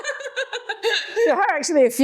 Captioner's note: laughs